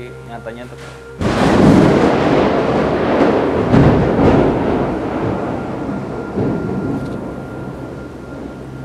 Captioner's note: thunder sound